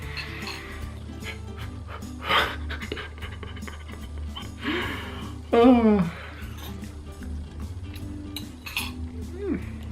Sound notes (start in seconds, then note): 0.8 breathes heavily; 5.6 groans